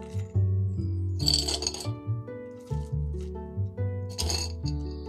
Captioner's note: stones rattling